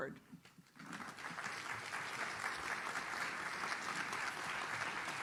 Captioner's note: audience claps